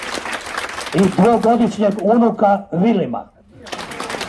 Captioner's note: applause…